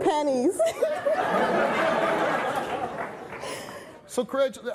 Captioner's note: laughing